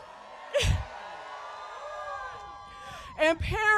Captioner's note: cheering